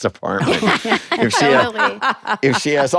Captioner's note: all laugh